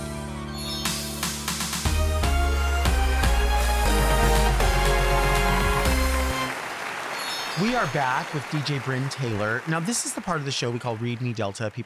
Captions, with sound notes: (enthusiastic music) (audience applauds) - We are back with DJ Brynn Taylor. Now this is the part of the show we call Read Me Delta.